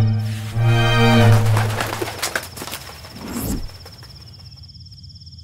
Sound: wings flapping

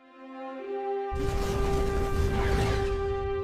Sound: spaceship engine

